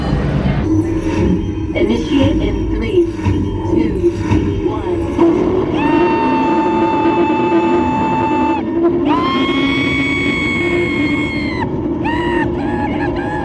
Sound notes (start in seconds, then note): 5.8 screaming